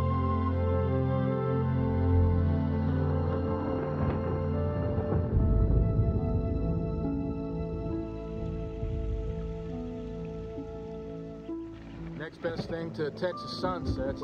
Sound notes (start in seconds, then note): 4.1 thunder roaring